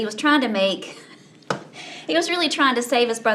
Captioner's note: laughs